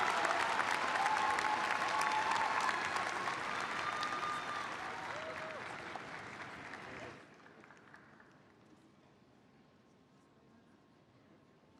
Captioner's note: applause